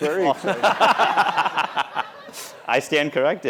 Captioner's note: laughter